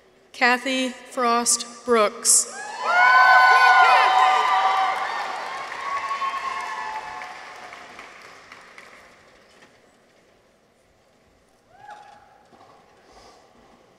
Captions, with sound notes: Cathy Frost-Brooks. -(people cheer) -(audience applauds)